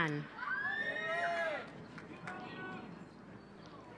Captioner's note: cheering